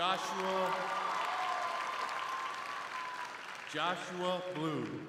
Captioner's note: crowd cheering